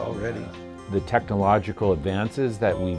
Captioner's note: voiceover